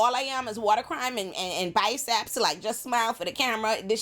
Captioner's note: none